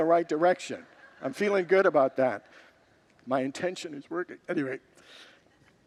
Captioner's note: congregants laugh